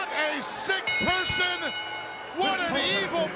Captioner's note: bell dinging